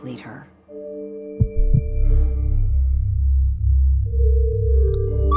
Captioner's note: heart pounding